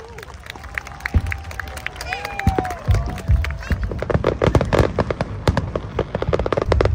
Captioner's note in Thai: ปรบมือ